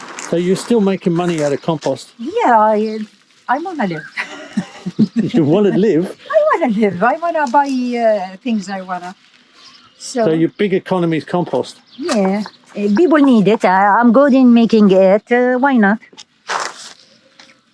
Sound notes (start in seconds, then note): 0.0 plastic rustling; 4.1 chuckles